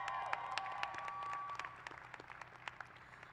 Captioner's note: cheers